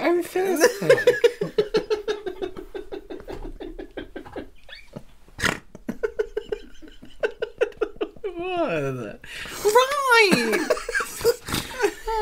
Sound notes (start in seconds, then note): 5.4 snorting